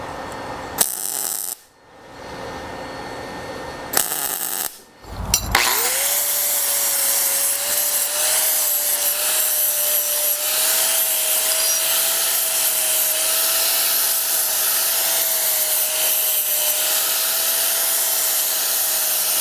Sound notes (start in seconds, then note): 5.0 grinder whirring